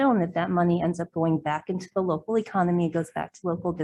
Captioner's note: none